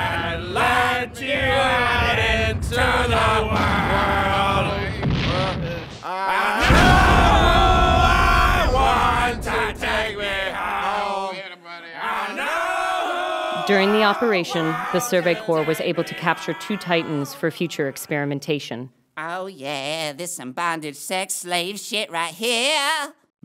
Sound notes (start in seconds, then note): 6.2 explosions